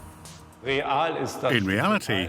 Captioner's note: speaking in foreign language